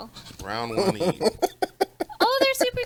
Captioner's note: laughs